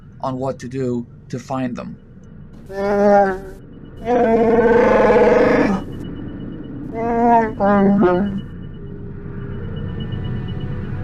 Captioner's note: growl